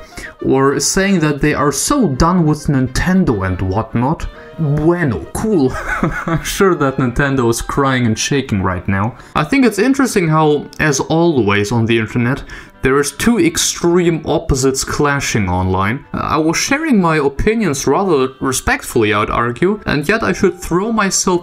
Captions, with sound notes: Or saying that they are so done with Nintendo and whatnot. Bueno! Cool. *laughing* I'm sure that Nintendo is crying and shaking right now. I think it's interesting how, as always on the internet, there is two extreme opposites clashing online. I was sharing my opinions rather respectfully, I'd argue, and yet I should throw myself